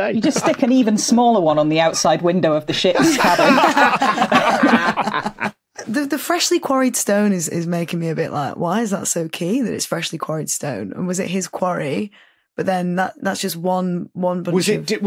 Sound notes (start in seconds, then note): 2.9 group laughs uproariously